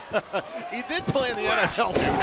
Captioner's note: laughter